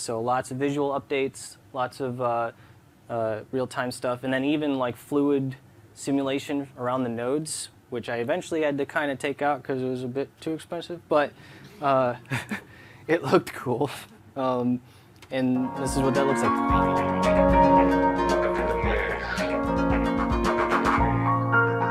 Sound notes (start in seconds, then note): 12.2 chuckles